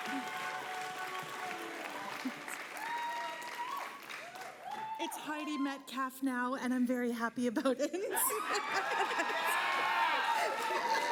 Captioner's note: applause